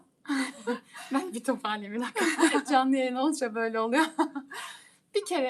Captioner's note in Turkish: kahkaha; kahkaha